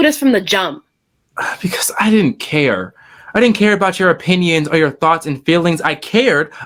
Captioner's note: sighs